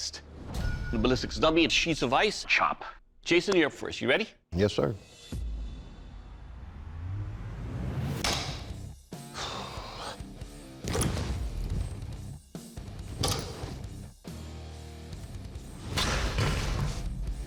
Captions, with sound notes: the ballistics dummy and sheets of ice chop. -Jason, you're up first. Ready? -Yes, sir. [exhales] [rock music playing]